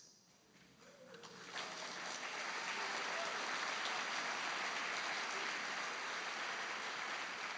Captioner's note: applause